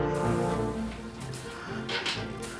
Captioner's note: water sizzles